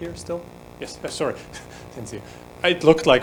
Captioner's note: laughing